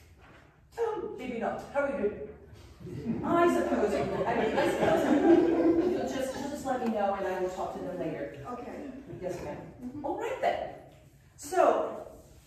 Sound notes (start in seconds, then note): 2.8 laughter